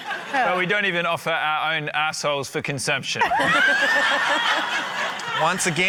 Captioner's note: laughter